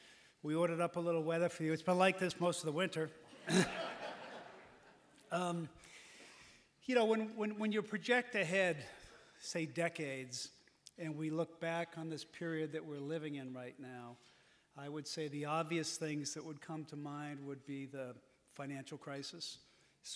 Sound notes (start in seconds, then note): 3.3 laughter